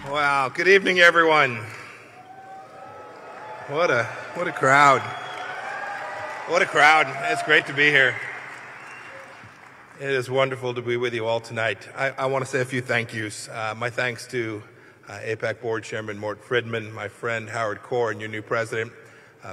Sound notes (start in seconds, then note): 3.3 cheers